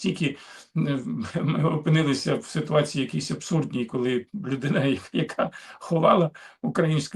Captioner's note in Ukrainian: сміх